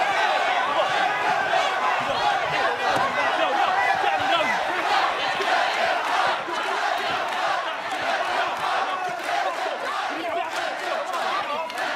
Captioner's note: fans chanting let them fight